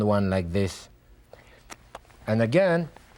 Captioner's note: lips smacking